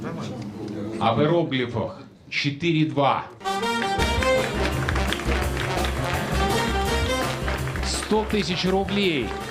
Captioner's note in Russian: аплодисменты